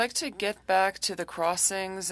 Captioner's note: speaking French